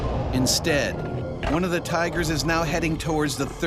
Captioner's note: voiceover